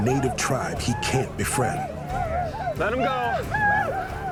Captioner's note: whooping continues